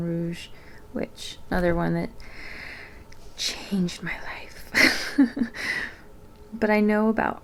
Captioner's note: laughs